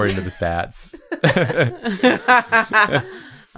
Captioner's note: laughter